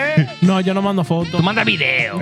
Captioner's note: speaking In Foreign Language